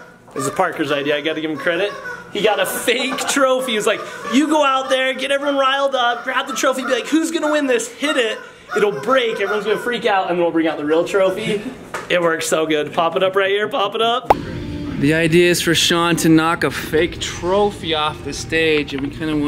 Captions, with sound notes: This is Parker's idea, I gotta give him credit. He got a fake trophy, he's like, you go out there, and get everyone riled up, grab the trophy, and be like, who's gonna win this? Hit it, it'll break, everyone's gonna freak out, and we'll bring out the real trophy. (person laughs) It worked so good, pop it up right here, pop it up. (video pops) - The idea is for Shaun to knock a fake trophy off the stage, and we kinda